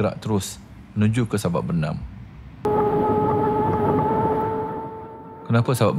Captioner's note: motor Sound